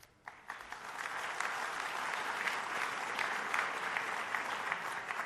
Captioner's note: applause